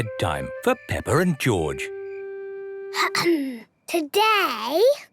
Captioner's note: clears throat